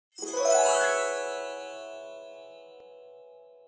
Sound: bright chiming

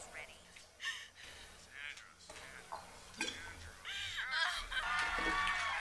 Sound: woman sobbing on TV; cheering and applauding on TV

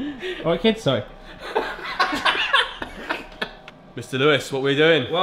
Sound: laughing

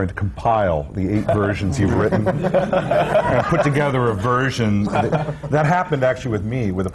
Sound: laughter

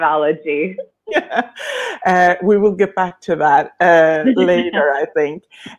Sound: laughing

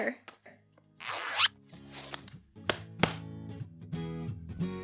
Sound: bag zips

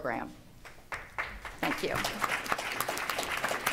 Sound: applause

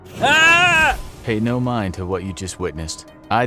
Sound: the narrator screams, then is cut off abruptly as the creature attacks

